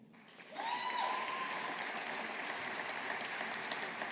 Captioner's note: audience applauding